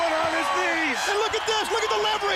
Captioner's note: crowd cheering